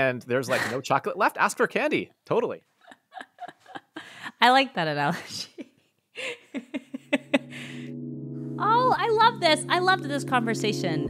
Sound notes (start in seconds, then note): 6.2 laughing